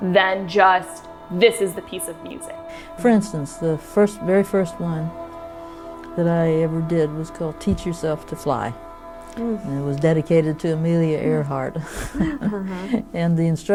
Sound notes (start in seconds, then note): 11.1 laughing